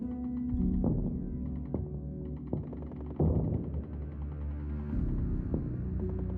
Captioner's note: somber music; explosion booming; somber music